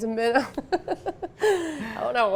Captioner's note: laughs